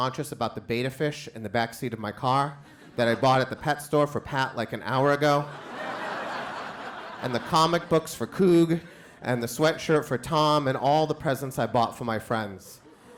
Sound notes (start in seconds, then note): 5.0 crowd laughs